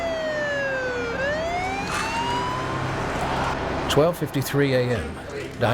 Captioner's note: ambulance siren sounding